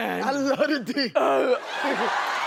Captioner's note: grunts; cheering and laughing